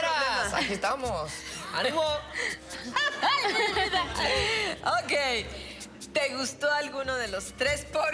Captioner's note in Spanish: Risas